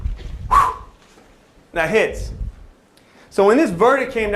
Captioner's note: exhale